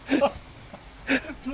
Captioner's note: laughing